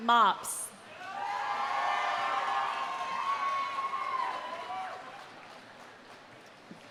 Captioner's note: audience cheering; audience applauding